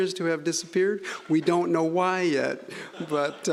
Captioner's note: scattered laughing